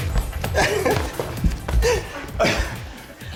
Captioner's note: laughs